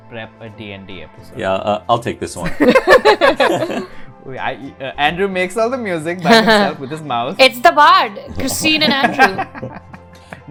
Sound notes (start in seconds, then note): 2.4 laughter; 7.2 laughs; 8.8 laughter